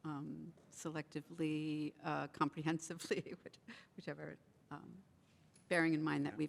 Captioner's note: chuckles